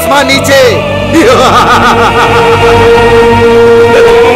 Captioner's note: Vishwas laughing